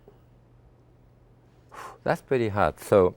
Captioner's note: exhales